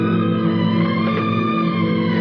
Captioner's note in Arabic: يُفتح الباب